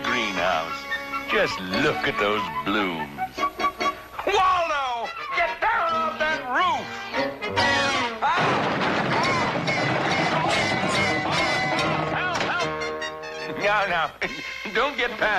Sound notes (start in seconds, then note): 7.6 Wilfred crashing